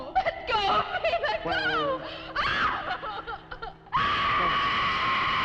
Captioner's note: Nan screaming; screams